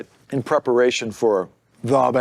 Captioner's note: none